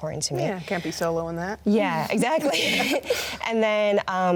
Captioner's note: both laugh